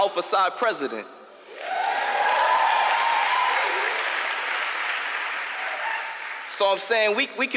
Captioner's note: applause